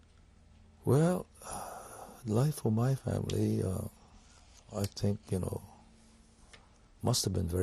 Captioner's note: sighs